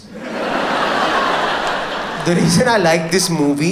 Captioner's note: audience laughs